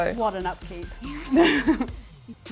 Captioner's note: laughs